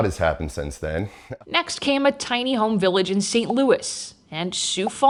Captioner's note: graphics popping